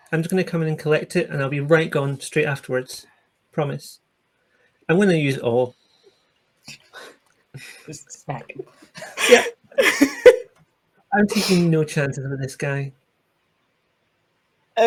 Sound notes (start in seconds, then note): 9.6 laughter